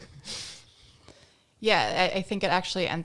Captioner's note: laughing